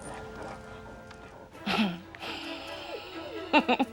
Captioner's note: chuckles